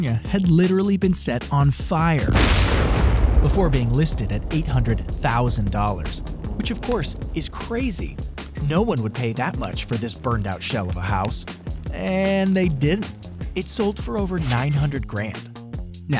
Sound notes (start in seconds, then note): 2.5 fire explodes